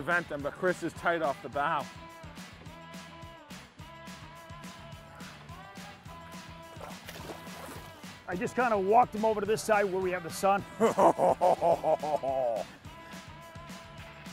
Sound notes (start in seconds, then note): 10.6 laughs